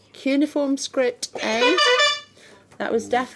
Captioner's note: buzzing